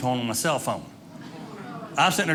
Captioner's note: audience laughing